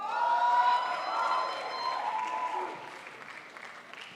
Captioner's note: crowd applauds